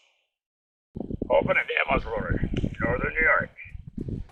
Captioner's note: pat